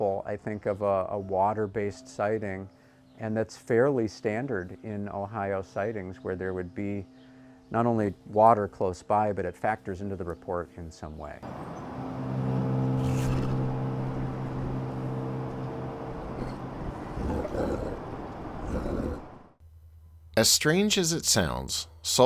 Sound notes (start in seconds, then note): 11.8 deep foreboding music; 16.8 creature grunting